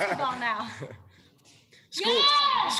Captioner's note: laughter